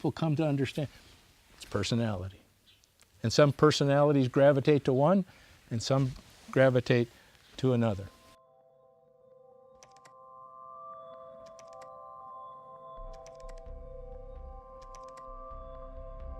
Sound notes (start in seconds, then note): 7.5 gentle music; 11.4 keyboard clacking